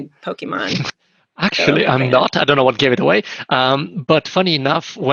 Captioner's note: snickers